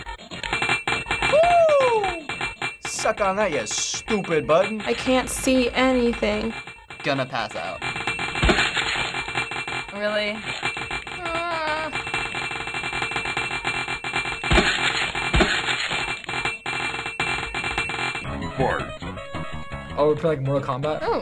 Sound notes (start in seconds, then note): 0.2 blades chiming; 7.9 blades clinging rapidly; 9.6 wryly; 11.1 whimpers; 12.1 rapid-fire clanging and chopping